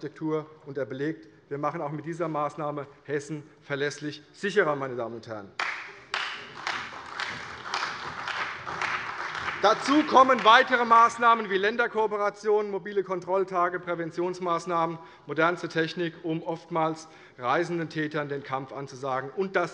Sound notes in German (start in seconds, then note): 5.6 Beifall bei Abgeordneten der CDU und des BÜNDNISSES 90/DIE GRÜNEN